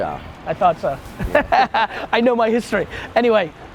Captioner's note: laughs